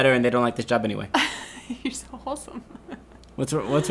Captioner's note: laughing